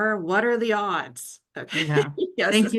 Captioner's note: chuckles